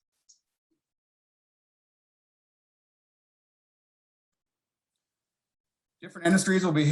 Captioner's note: silence